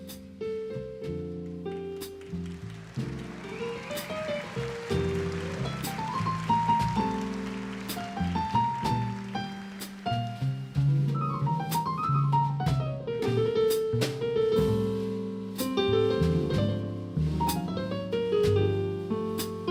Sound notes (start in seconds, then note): 2.0 applause; 11.4 jazz piano solo